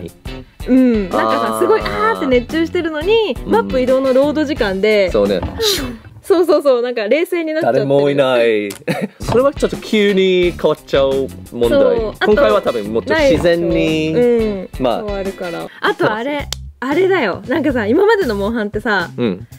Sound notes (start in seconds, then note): 5.6 sigh